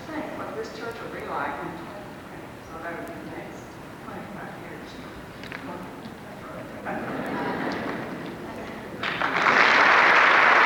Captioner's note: applause